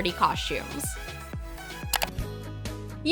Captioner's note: clicking